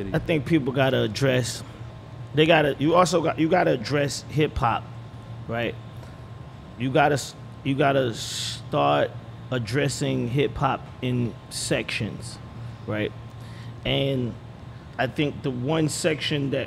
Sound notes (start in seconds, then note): none